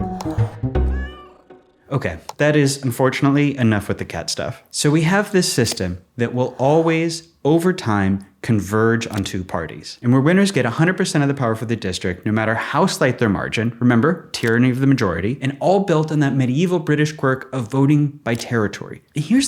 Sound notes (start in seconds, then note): 0.9 cat meows